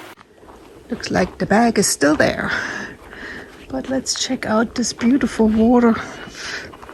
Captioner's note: laughs